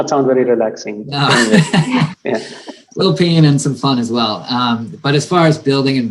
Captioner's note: laugh